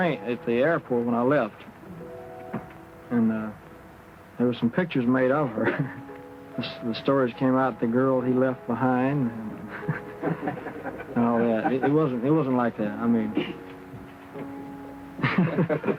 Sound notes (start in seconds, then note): 9.6 laughing; 14.8 laughing